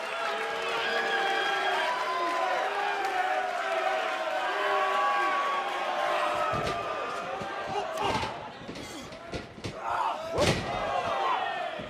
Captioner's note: cheers and applause